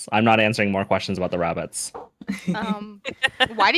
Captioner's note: chuckles